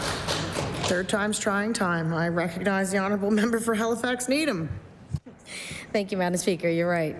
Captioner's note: applause